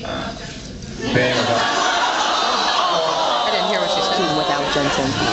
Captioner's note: awwwws